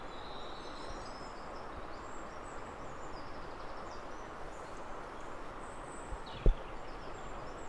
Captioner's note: river sound